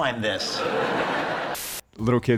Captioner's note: audience laughing